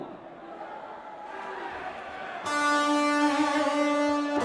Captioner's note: crowd chatter